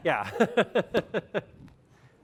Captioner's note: laughter